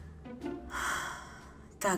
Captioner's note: sighs